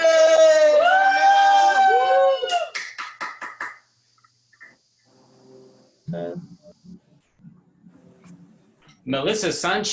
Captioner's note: applause